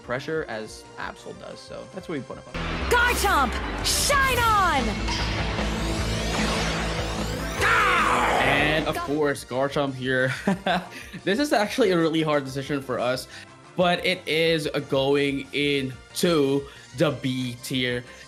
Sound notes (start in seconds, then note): 10.5 laughs